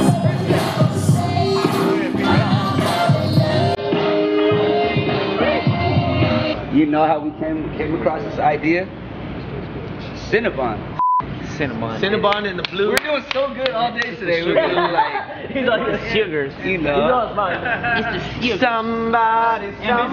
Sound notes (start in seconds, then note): 0.0 upbeat electronic music; 11.0 TV beeps; 12.3 hands clapping; 17.6 crew member laughing